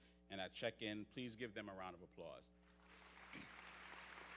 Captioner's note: audience cheers